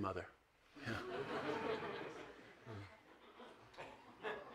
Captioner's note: audience laughs